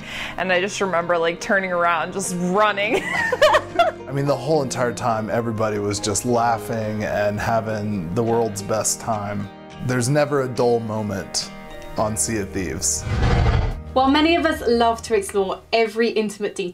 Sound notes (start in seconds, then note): 3.1 laughing